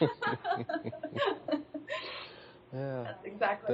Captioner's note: both laugh